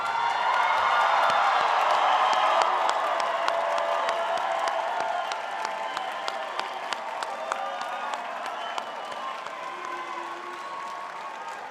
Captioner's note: cheering and applause